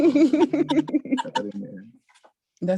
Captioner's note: laughing